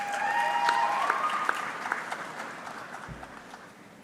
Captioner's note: audience clapping